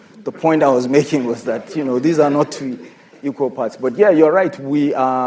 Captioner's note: laughter